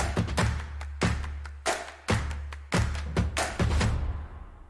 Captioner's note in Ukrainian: оплески